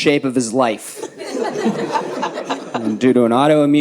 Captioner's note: audience laughs